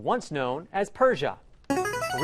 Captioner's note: ringer